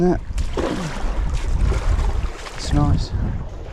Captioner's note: water sloshing